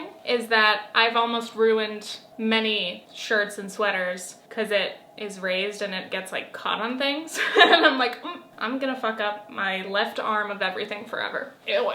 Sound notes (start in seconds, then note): 7.4 laughs